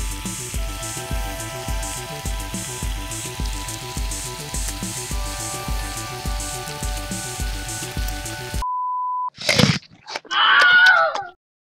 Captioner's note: crunch